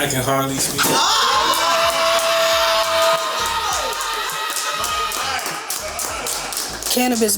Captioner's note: cheers and applause